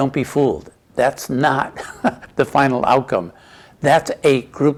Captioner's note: chuckles